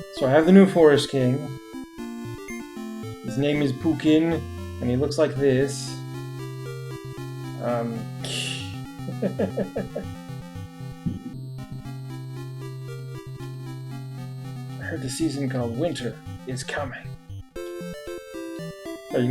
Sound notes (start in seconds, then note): 9.0 chuckles